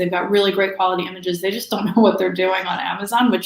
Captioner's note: chuckles